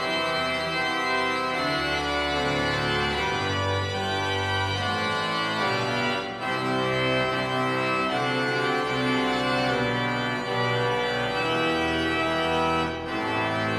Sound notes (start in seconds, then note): none